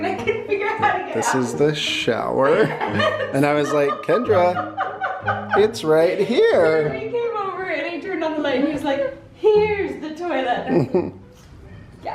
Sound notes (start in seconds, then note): 2.4 laughing; 10.7 chuckles